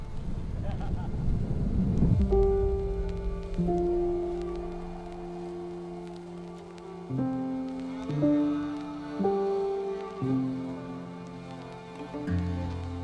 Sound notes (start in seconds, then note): 0.6 photographer laughs; 2.5 slow music